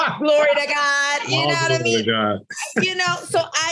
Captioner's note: laughs